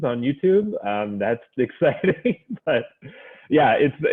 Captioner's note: laughs